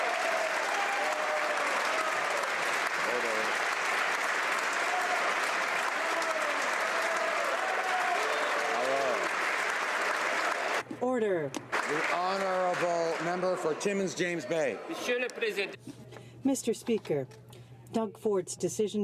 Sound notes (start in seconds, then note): 5.2 applause